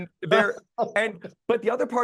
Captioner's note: interviewer laughing